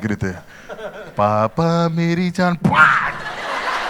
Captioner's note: slaps